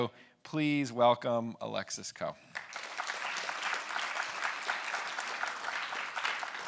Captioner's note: audience applauding